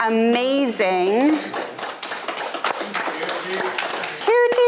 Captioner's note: audience applauding